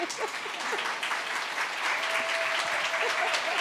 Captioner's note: audience applauding